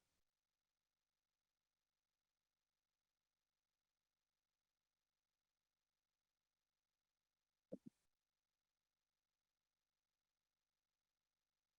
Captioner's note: silence